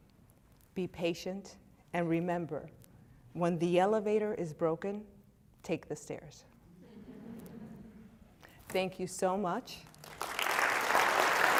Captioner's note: claps